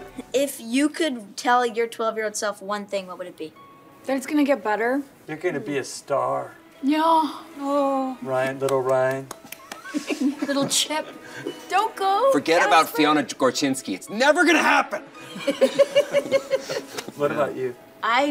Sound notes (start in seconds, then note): 15.2 all laugh